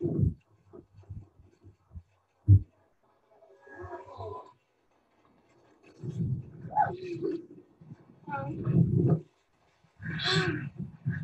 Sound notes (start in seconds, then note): 7.5 laughs